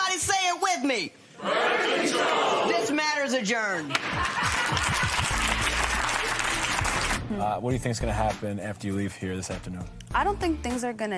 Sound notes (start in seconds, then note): 3.9 applause